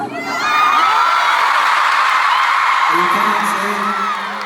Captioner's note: crowd cheers